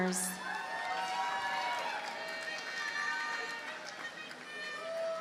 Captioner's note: audience cheers and applauds